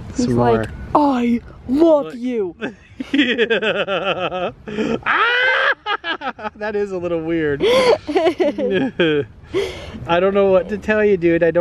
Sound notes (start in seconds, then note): 2.6 laughs; 5.0 yells